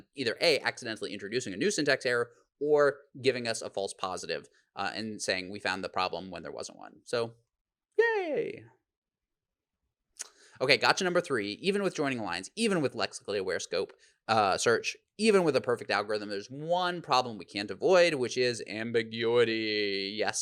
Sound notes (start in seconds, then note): none